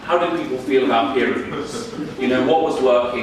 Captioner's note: audience laughing